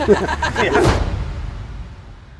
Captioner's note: laughing; eerie music